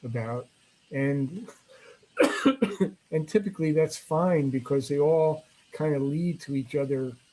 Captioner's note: coughs